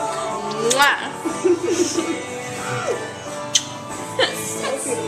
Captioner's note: kissing sounds